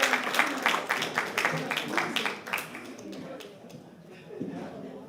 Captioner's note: applause